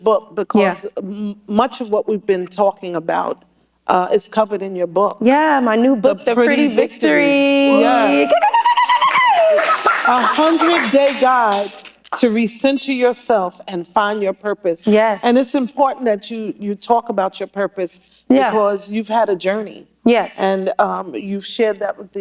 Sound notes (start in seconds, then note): 8.1 cheers